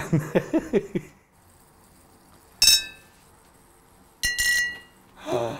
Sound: glass ringing different notes; glass ringing different notes

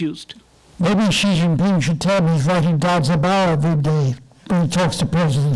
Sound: microphone rumble

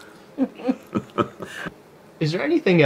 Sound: woman and man both laughing

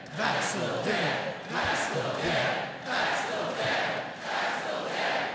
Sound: chanting

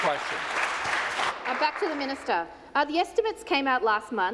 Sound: applause

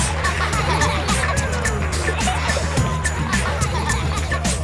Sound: beatboxing

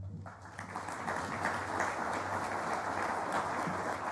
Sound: applause

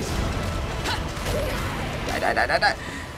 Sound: Bayonetta grunts

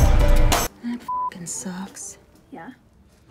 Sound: beep

